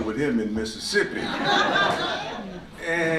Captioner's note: laughter